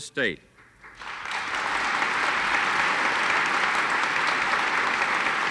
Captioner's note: audience applauds